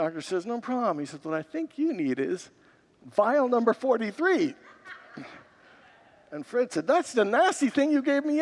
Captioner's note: congregants laugh